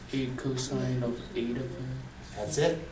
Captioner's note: voiceover